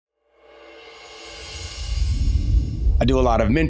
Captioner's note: air whooshing